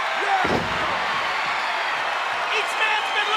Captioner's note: audience cheers